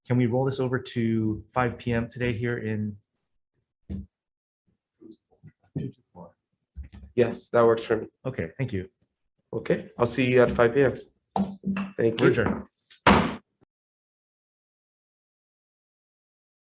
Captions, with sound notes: - Can we roll this over to 5:00 PM today here in- - 224. - Yes, that works for me. - Okay. Thank you. - Okay, I'll see you at 5:00 pm. Thank you. - We're adjourned. (gavel bangs)